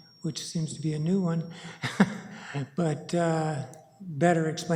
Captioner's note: laughs